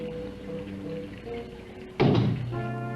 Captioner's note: knocks